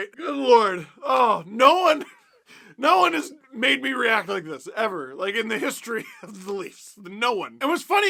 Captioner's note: laughs some more; laugh